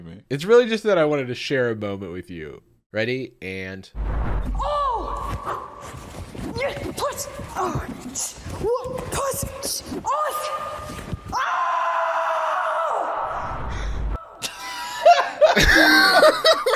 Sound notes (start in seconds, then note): 4.1 chanting; 11.3 screaming; 14.4 laughing